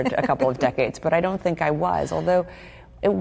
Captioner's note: laughter